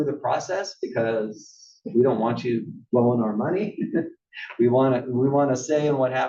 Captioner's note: laugh